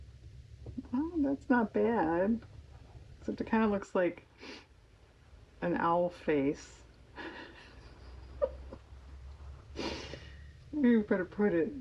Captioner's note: laughs